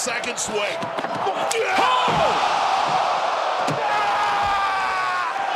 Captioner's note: audience cheering